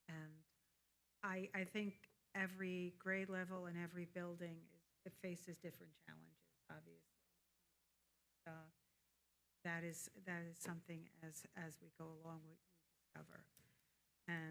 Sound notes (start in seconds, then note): 8.3 audio cuts out